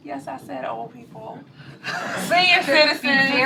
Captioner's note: laughter